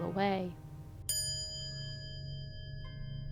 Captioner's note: quiet chime